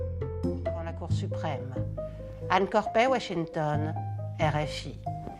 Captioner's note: speaking in foreign language